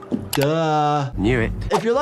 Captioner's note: suspenseful music; graphics clicking